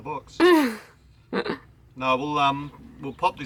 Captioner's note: laughing